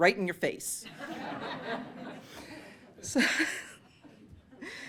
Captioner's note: laughter